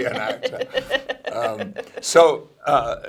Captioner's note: laughing